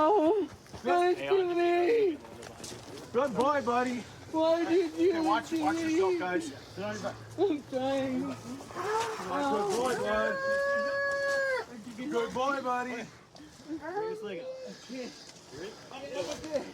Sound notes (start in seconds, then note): 10.4 wails